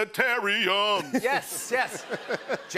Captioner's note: laughter